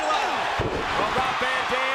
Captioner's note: audience cheering and clapping